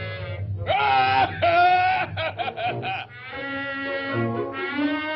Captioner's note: Pin Cushion Man laughing; suspenseful music